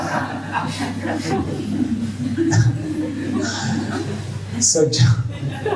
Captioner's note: laughter